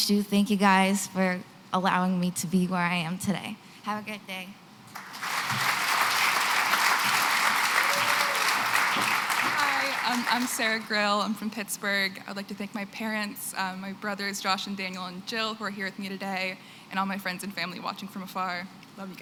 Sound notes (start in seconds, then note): 4.9 applause